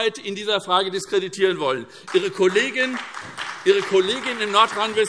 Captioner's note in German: Beifall SPD, BÜNDNIS 90/DIE GRÜNEN und DIE LINKE